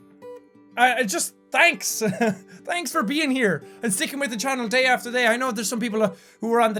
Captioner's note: laugh